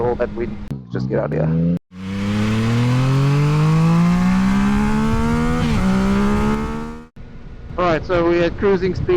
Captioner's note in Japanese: エンジン音